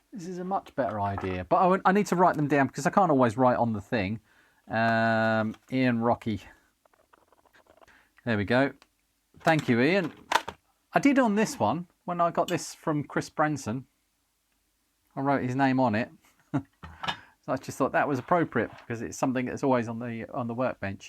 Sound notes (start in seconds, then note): 7.0 paper Rustling